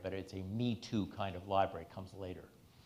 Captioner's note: none